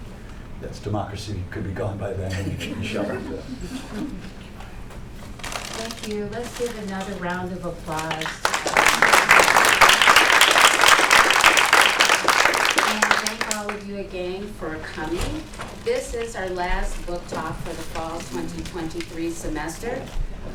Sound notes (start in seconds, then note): 2.2 laughter; 7.9 applause